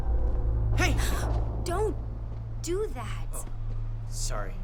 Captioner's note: gasps